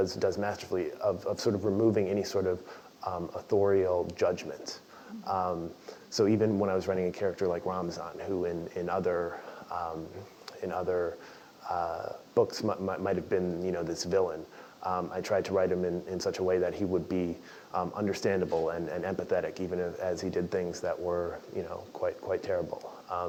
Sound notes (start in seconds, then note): none